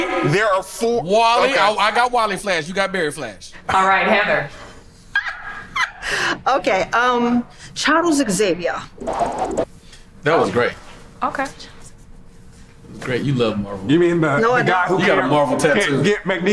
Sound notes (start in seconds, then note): 5.2 laughs